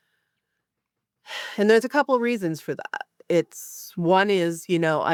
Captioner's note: sighs